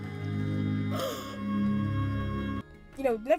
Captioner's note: gasps